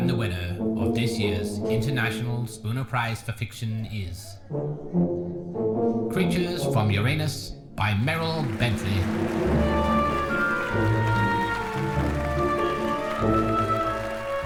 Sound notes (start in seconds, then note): 8.0 audience applauding; 8.1 slow orchestral music